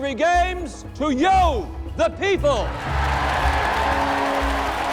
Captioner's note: cheering